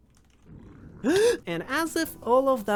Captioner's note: gasp